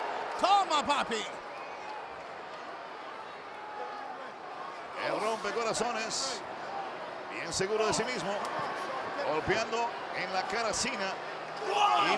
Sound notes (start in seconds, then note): 0.0 applause